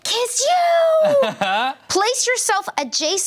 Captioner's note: laughs